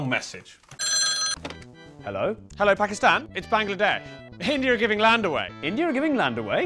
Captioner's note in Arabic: رنين الهاتف